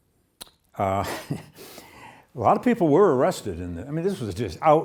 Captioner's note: laughs